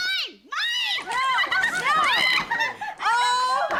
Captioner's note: patient laughing